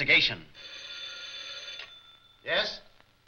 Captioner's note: phone ringing